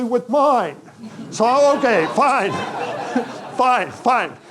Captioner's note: audience laughing